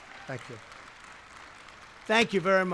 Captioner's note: applause